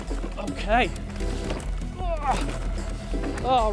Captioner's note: grunting